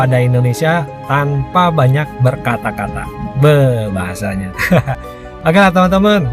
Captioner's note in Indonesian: tertawa